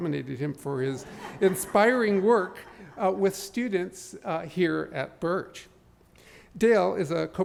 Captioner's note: laughter